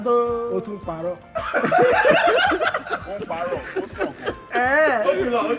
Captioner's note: everyone laughs